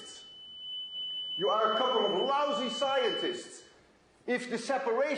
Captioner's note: high tone; tone stops